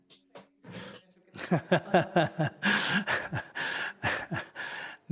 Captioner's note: laughter